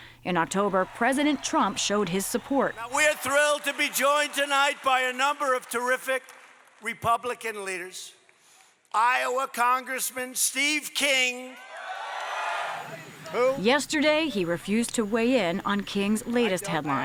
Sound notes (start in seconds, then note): 11.5 cheering and applause